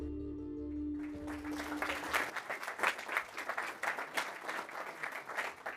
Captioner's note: audience clapping